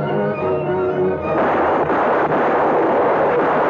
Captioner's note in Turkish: Tüfek sesleri